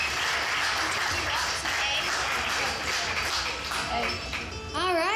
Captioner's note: band members chattering